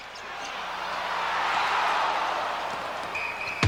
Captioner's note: audience cheering